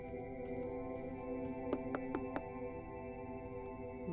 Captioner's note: Knocks on the door